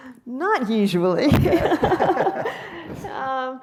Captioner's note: laughs